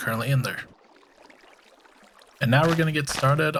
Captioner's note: water bubbling